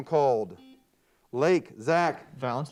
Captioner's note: buzzer beeps